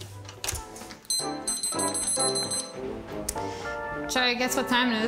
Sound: timer beeps

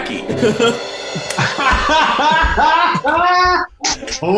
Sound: laughing

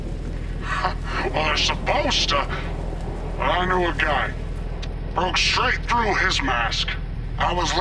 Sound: scoffs

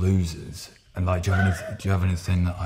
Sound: laughing

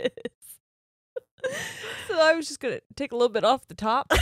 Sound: both laughing

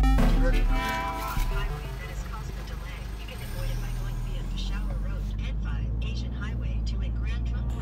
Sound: gps speaking

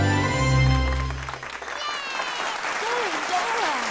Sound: cheering, clapping

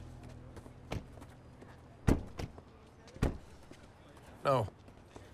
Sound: car doors slamming

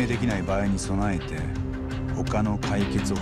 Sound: none

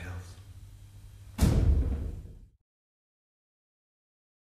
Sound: sharp thud

